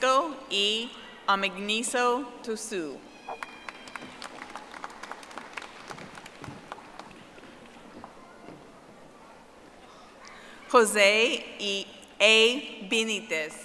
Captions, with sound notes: Francisco E. Amigniso Tusu. (audience applauding)